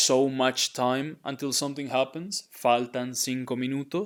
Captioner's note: speaking in Spanish